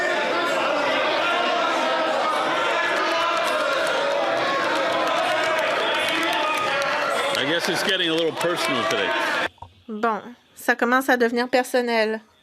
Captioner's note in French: applaudissements